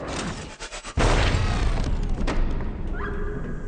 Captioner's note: gunshot; scream